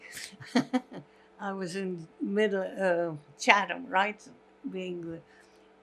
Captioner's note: laughing